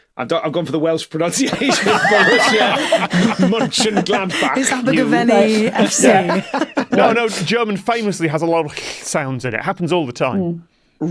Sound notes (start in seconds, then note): 1.3 group laughing